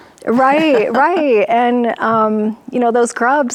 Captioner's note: laughs